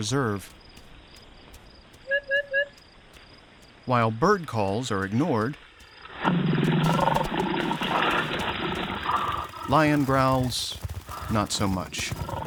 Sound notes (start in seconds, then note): 0.0 bird calling continues; 6.8 lion growling on recording